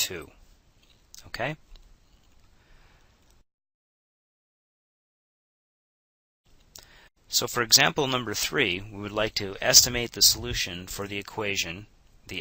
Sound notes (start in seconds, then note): 2.2 silence